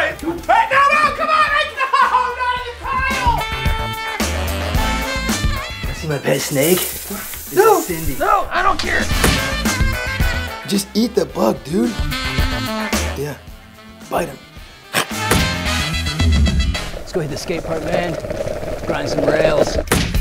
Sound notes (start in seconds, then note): 2.6 jazz music; 15.3 thud; 19.9 thud